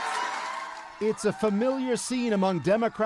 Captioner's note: applause